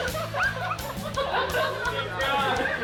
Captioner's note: roommates laughing